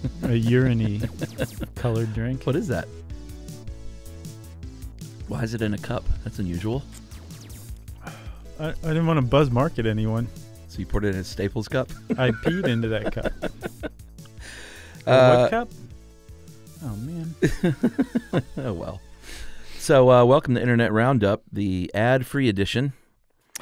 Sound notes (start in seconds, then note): 0.0 laughs; 11.9 laughs; 17.4 laughs